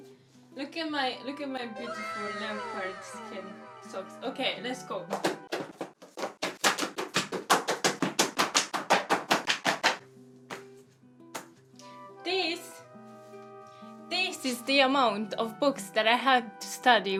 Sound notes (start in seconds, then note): 0.9 anime "Wow!" sound; 5.3 sound of stacking each book